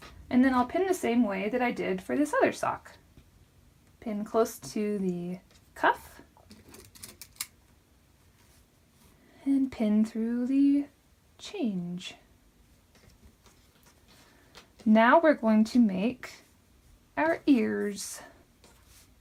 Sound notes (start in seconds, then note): 6.5 pins rattle